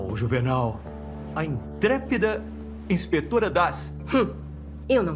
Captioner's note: scoffs